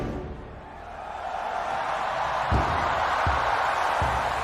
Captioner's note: crowd cheering